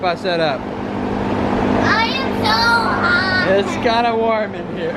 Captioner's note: fan noise